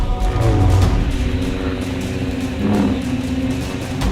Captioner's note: Lightsaber swooshes